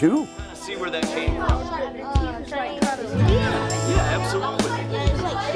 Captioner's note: students talking